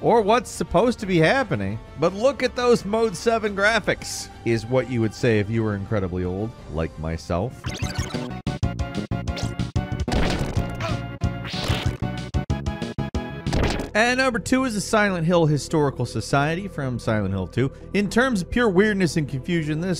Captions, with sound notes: or what's supposed to be happening. But look at those Mode 7 graphics! Is what you would say if you were incredibly old, like myself. (electronic bleeping) (tense 8-bit music) (thudding) And number two is the Silent Hill Historical Society from Silent Hill 2 In terms of pure weirdness and confusion,